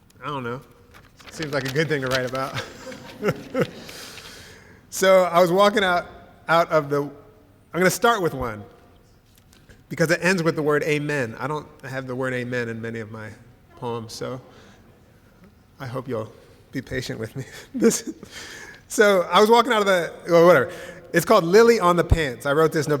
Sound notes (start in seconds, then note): 2.5 laughter